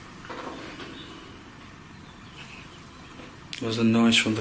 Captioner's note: corner creaking